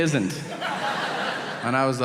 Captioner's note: audience laughing